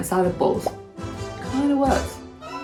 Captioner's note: bubble pops